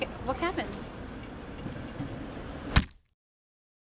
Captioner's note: thwack